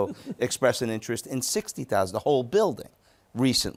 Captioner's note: chuckles